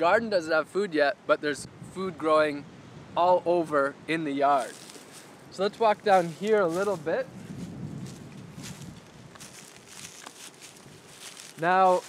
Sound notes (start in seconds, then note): 8.1 sound of crunching leaves under foot